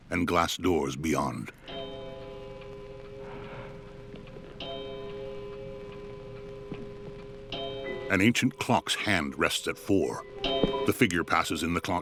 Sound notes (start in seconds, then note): 1.6 clock chiming